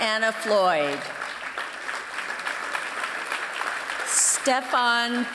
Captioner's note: applause